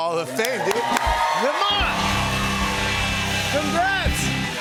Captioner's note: cheers and applause